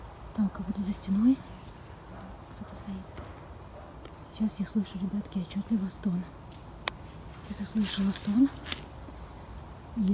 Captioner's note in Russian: шаги в здании??